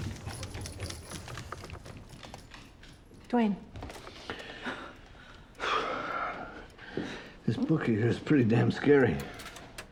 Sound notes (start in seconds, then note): 5.3 exhales; 9.2 door opening